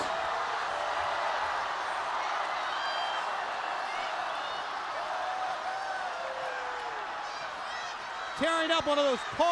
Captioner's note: crowd cheering